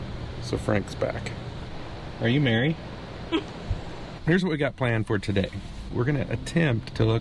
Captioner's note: laughs